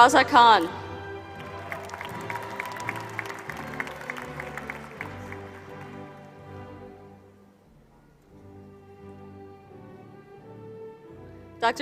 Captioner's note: applause